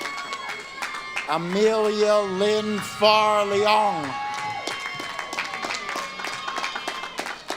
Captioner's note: audience claps and cheers